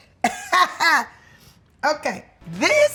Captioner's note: laughing